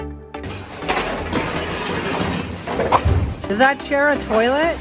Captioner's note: crashing sounds